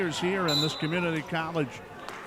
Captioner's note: referee whistling